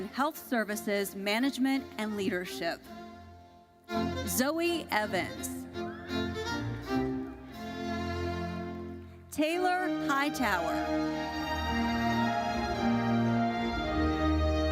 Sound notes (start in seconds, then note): 6.3 audience cheering; 9.6 gentle classical music